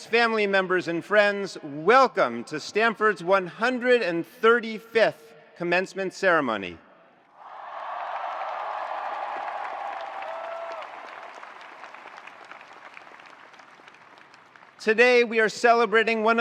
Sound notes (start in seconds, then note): 7.3 attendees cheering; 7.4 attendees applauding